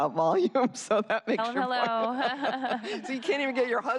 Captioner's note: laughter